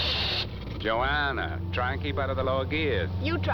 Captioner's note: gears Grinding